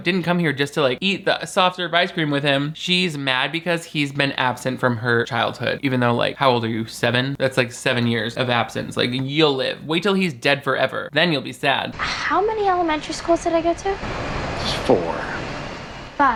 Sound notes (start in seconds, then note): none